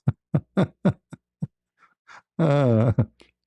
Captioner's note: ketawa